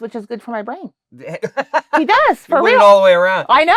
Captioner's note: laughs